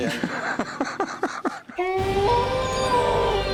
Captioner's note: laughs; wolf howls